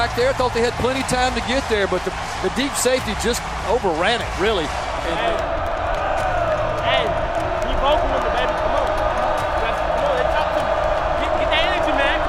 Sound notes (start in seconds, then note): 5.1 crowd cheering